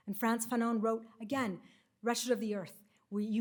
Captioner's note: none